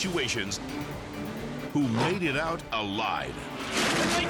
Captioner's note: lion growling; cars crashing; track announcer yelling